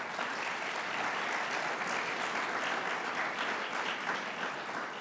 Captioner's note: audience applauds